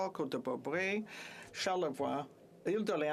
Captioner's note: speaking French